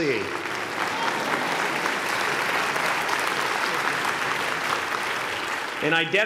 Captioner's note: applause